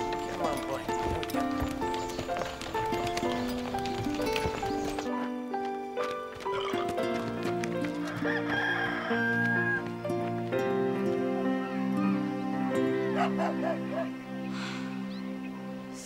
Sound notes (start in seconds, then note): 6.6 burping; 14.5 sighing